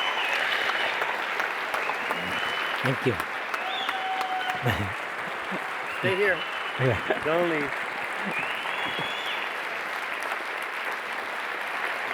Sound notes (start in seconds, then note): 8.5 audience cheering